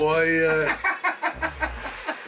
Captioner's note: laughter